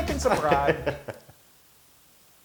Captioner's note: laugh